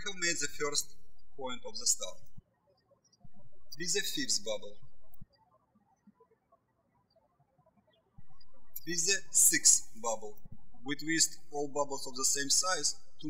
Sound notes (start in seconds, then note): 5.8 birds chirping